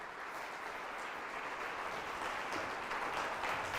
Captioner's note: loud applauding